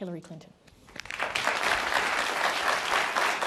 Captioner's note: applause